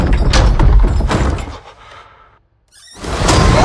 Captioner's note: door banging; breathing shakily; door creaks